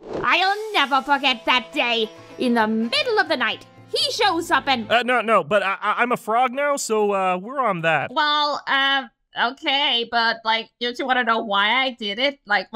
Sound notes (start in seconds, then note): 5.2 stammering